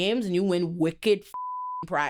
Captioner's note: beep